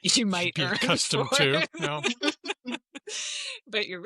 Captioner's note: laughter